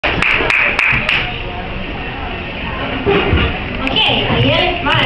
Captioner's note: audience applauds